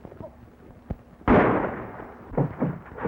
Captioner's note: gunshot